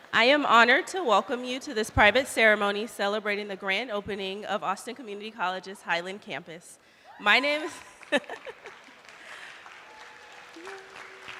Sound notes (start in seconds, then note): 7.6 laughing; 7.6 attendees applauding